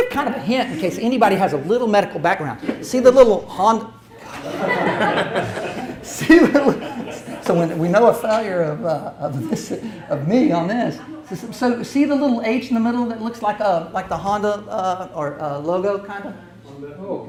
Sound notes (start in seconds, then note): 4.2 audience laughs; 4.3 sighs